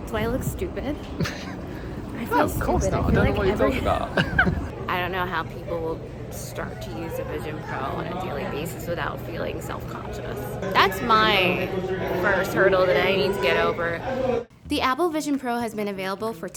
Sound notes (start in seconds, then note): 3.8 both laughing